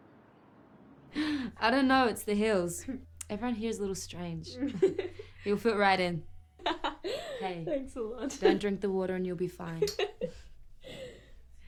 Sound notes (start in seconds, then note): 4.6 dealer laughs; 6.6 laughs